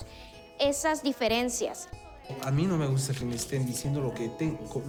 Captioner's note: man speaking spanish